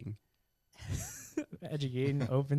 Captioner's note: laughing